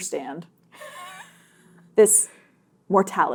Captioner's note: laughing